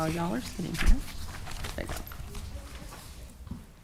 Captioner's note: papers rustling